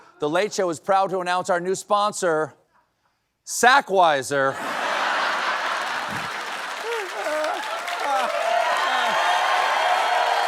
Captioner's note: cheering